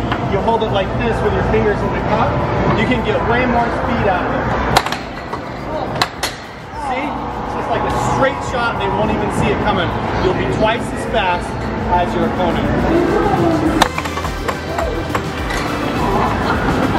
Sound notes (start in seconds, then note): 4.8 loud clanking; 14.4 clanking; 16.7 arcade music